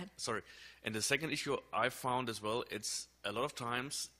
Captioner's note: voiceover